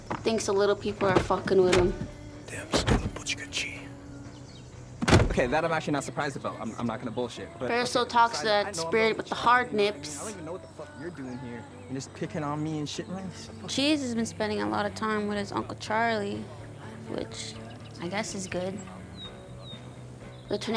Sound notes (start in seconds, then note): 3.2 non-english; 13.2 scoffs